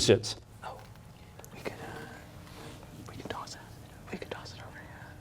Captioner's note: whispering